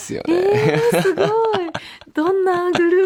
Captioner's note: laughs